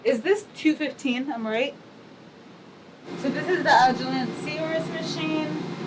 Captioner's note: loud machine whirring